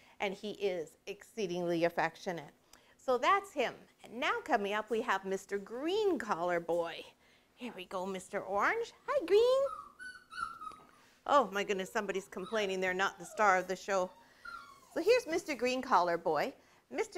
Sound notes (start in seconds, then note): 9.4 dog whining